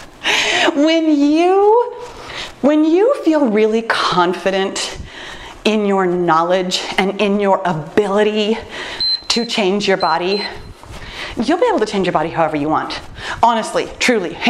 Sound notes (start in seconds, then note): 8.9 timer beeps